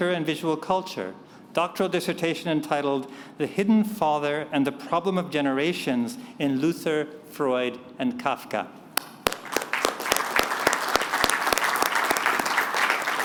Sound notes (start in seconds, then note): 9.0 applause